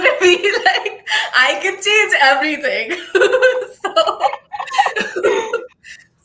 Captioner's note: laughing